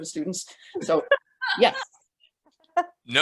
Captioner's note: person laughs